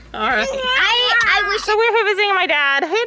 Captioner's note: babbles